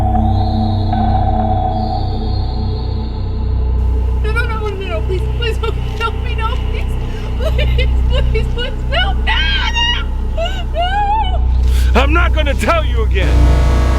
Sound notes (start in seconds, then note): 0.6 tense music; 8.8 Angela crying and screaming